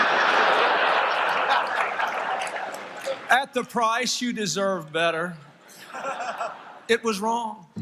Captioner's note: laughter